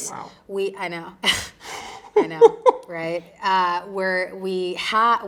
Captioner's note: both chuckling